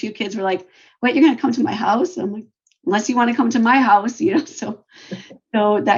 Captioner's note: laughs